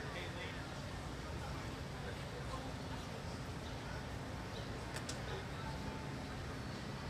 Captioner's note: and audience members chattering